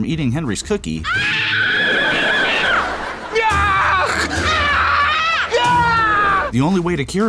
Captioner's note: screaming